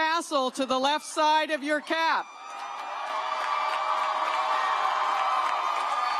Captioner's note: cheers